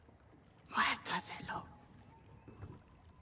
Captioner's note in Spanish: susurrando